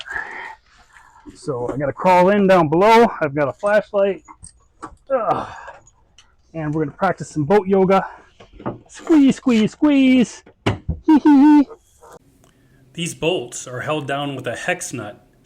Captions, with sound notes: So I'm gonna crawl in down below. I've got a flashlight. And we're gonna practice some boat yoga. Squeeze, squeeze, squeeze. (laughs) These bolts are held down with a hex nut